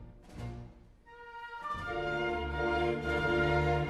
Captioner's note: none